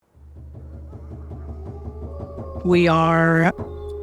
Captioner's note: wolves howling softly